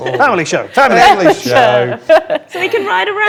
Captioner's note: overlapping chattering; overlapping chattering